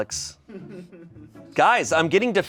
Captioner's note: chuckles